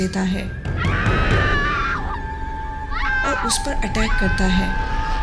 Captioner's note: saira screaming